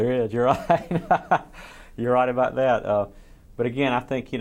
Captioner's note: laughs